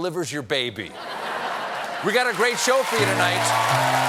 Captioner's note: laughter